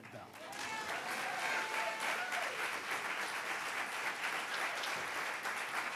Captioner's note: audience applauding and cheering